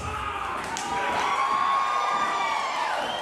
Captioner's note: screaming; crowd cheering